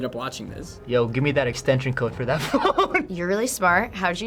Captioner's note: cracks up